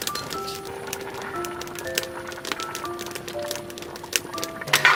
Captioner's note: bubbling